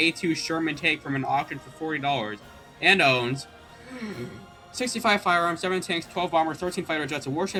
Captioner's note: takes deep breath